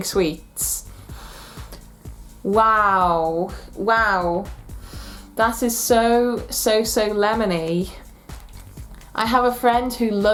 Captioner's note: sniff